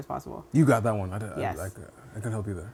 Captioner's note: stuttering